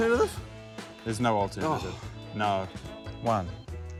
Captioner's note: sighs